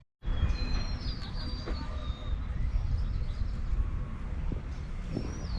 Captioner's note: birds chirping